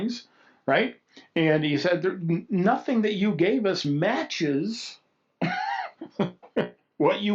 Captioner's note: laughs